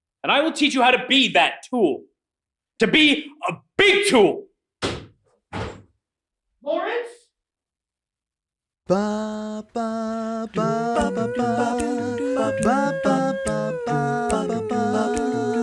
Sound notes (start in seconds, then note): 5.4 door slams; 8.8 A cappella music